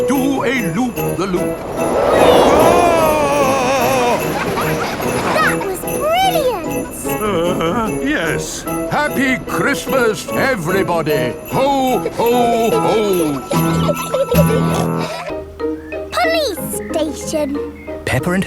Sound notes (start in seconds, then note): 3.6 screaming; 4.7 children laughing; 14.1 children giggling; 14.4 peppa snorts